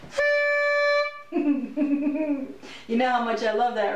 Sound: horn blowing; giggling

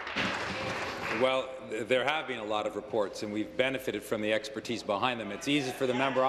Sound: applause

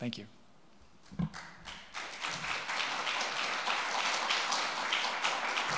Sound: audience applauding

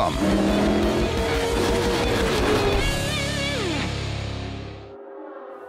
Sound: revving engines

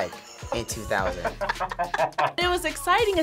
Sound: group laughs

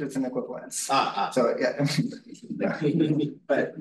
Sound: chuckles

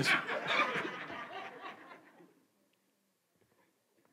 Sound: congregation laughs

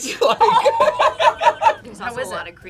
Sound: both laugh

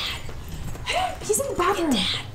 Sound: whispers

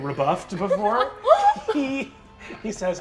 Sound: laughing

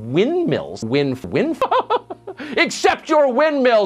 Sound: laughing

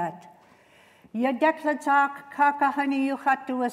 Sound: non-english speech

